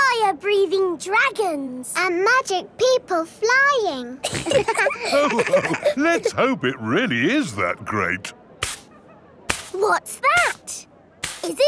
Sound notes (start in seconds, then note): 4.3 all laughing; 8.6 brushing